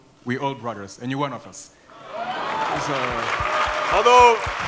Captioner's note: applause